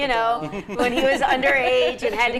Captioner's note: group laughing